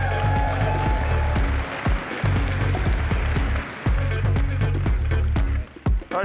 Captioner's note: applause